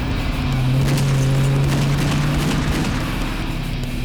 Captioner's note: gunfire